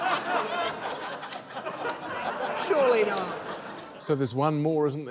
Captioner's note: laughter